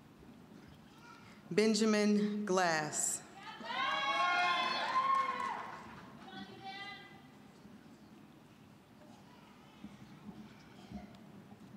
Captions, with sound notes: >> Benjamin Glass. (audience cheering) >> I love you, Ben!